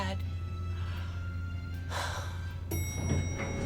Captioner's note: sighs; ding ding